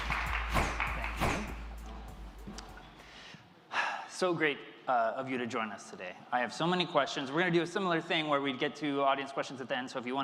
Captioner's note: applause